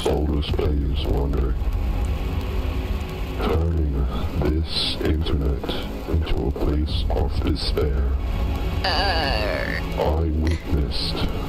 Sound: laughs

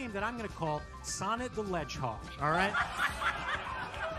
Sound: laughter

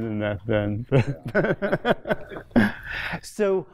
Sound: laughter

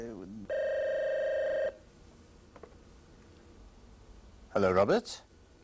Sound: telephone rings

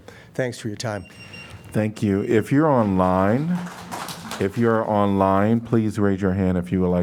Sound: applause

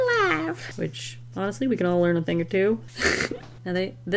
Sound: chortle

